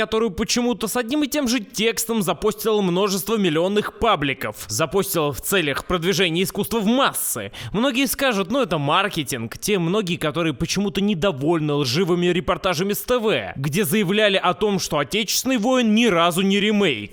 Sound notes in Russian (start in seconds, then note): none